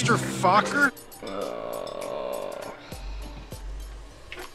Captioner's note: groans